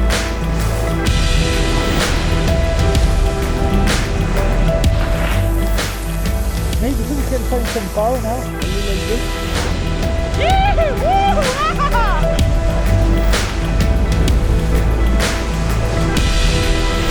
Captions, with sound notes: (upbeat electronic music) - Maybe we can find some pow, now? A little bit. (men whooping) (upbeat electronic music)